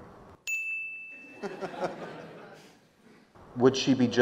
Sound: laughing

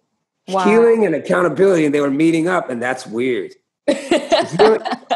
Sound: laughter

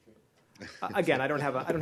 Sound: laughter

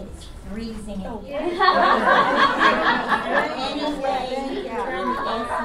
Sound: audience laughs, much conversation

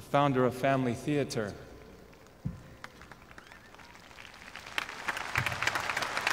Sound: audience clapping

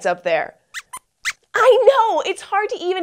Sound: squeaks squeaks

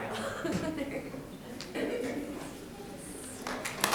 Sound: laughing; audience clapping

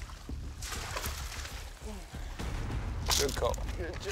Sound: water splashing

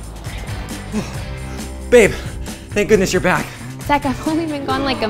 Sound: door clicks open; sighs

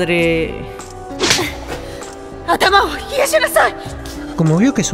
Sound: slap

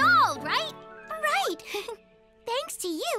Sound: chuckles

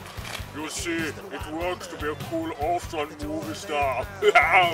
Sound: laughs

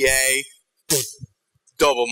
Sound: raspberries

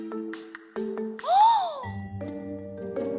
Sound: gasp

